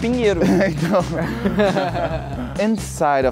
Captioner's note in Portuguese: risadas